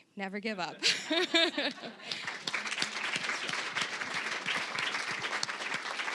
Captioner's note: all laughing; applause